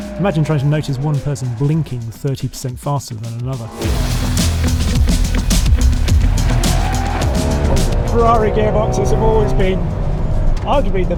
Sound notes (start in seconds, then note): 3.8 car revs; 3.8 upbeat music continues